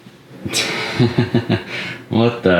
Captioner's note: laughing